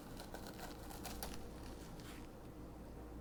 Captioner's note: spoon scraping pulp